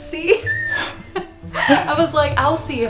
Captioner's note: laughter